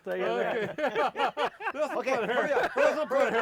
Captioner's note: laughing